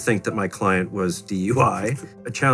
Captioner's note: laughs